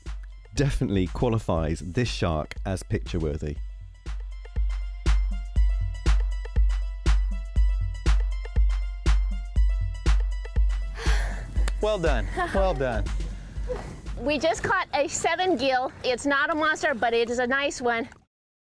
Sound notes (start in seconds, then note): 13.4 panting